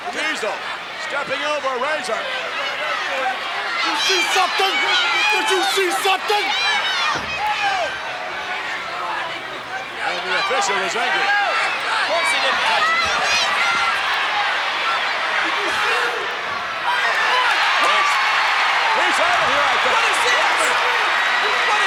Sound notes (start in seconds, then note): 8.3 crowd yelling; 13.3 crowd shouting; 17.8 crowd cheering